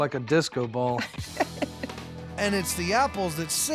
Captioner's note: laughs